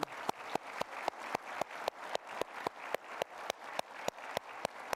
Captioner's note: applause